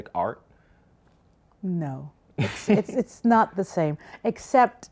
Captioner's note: laughs